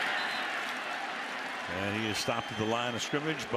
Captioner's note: whistle